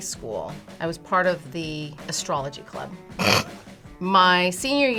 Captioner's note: laughs